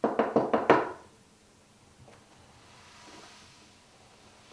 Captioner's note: knock on door